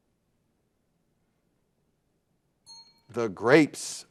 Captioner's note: bell dings